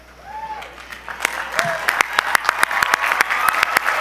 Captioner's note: audience applause